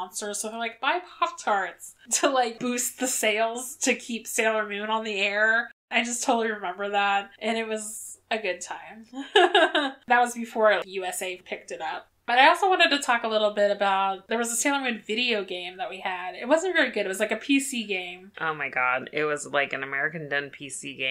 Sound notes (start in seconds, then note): 9.2 laughs